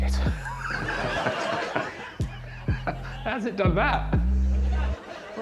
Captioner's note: Alan laughs